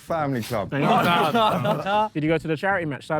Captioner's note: Sidemen laugh